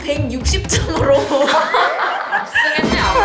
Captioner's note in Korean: 파안대소